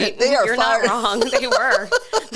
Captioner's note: laughs